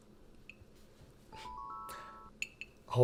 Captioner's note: text tone